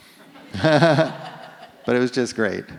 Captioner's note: audience laughs